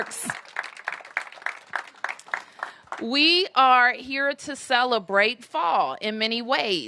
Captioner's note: applause